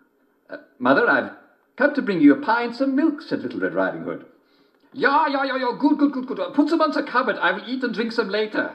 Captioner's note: German accent; German accent